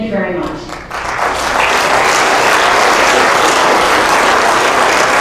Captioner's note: applause